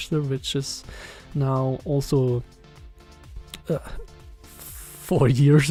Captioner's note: none